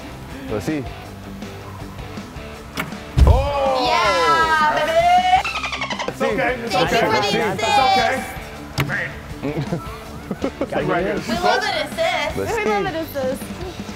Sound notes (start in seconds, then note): 9.0 laugh